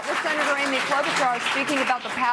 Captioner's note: applause